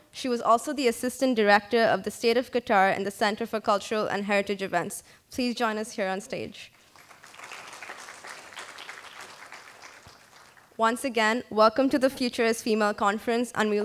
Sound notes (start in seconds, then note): 6.8 applause